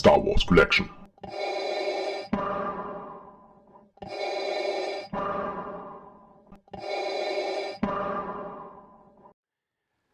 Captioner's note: Darth Vader breathing sounds